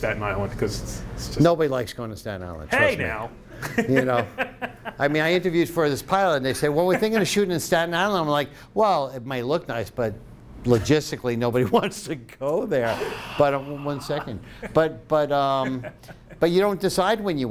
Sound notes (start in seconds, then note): 3.5 laughing